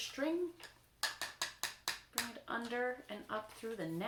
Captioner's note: taps bowl